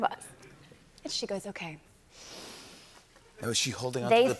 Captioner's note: breathes deeply